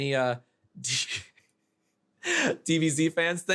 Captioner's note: chuckles